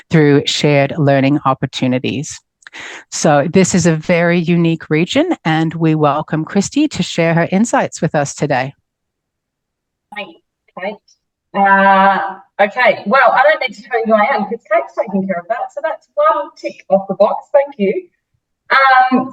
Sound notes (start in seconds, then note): 11.0 patchy audio